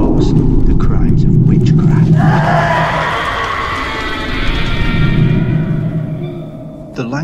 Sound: pained screams

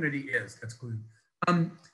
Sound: mumbles

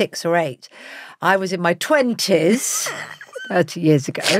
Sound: Giovanna laughs

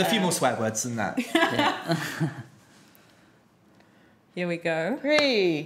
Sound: laughs

